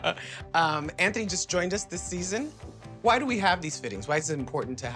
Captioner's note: laughter